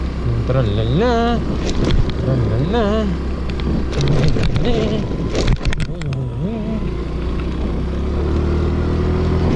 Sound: humming musically

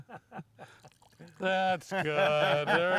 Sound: laughing

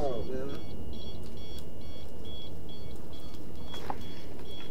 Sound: beeping

